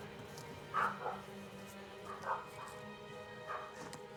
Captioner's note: dog barking